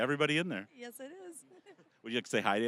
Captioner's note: laughing